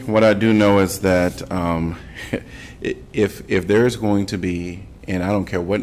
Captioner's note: laughter